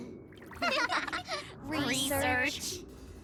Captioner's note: laughter